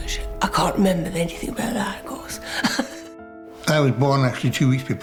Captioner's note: chuckles